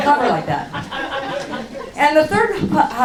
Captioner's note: laughing